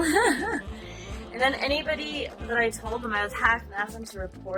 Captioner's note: giggles